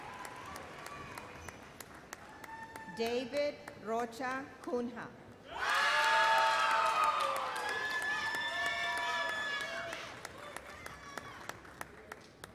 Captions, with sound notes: David Rocha Cunha. (thunderous cheers and applause)